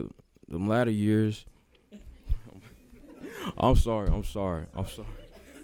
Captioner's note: laughter